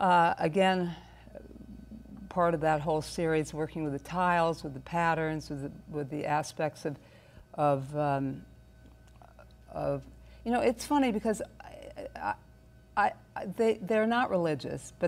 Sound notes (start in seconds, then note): none